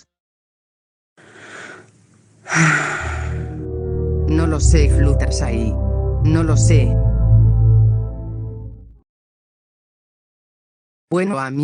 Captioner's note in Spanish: suspiro